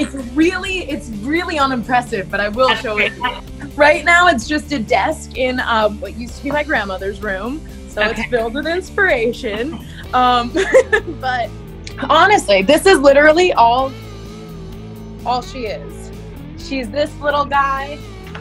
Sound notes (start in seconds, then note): 9.3 laughs